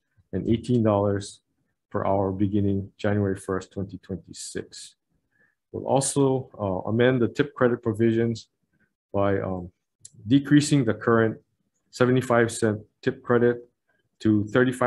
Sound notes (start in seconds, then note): none